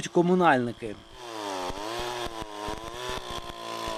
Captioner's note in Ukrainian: працює бензопила